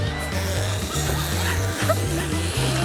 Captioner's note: sputters